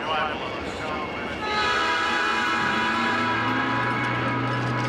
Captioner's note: train whistle blowing